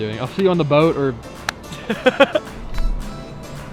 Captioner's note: laughing